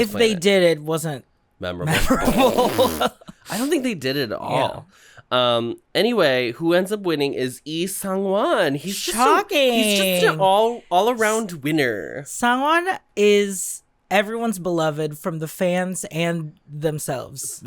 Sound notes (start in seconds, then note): 9.3 sarcastically